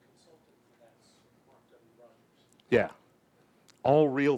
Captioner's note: murmurs